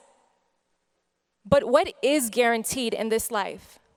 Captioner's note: none